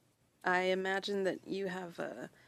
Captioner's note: speaking French